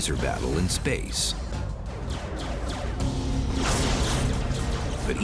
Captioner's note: laser weapon sounds